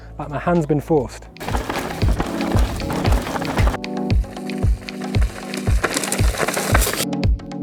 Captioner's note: chill music; bicycle clattering